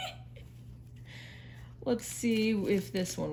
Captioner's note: laughs